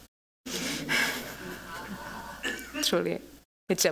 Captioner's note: laughter